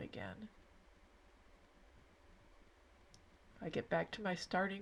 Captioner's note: silence